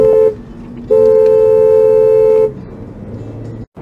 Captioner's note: dashcam driver honks